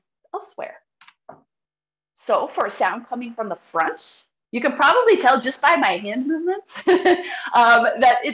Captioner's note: chuckles